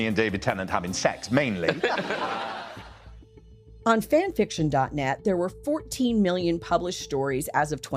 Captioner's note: laugh